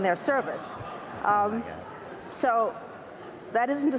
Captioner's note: audience laughs